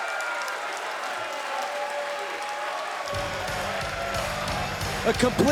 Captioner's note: cheers & applause